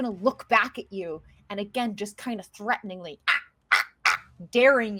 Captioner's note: squawking